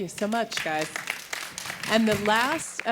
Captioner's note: audience applauding